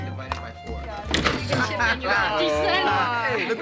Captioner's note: chattering